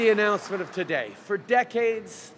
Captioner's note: applause